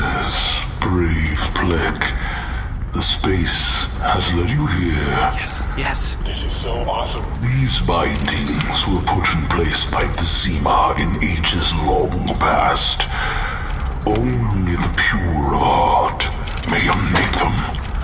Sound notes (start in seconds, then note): 7.1 rattling chains